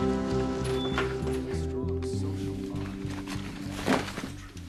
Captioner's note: MAN CHATTERlNG ON TV